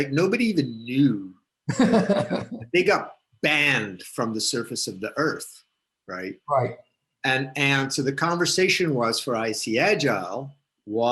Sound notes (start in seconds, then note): 1.7 laughs